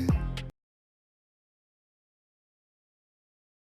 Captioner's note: birdsong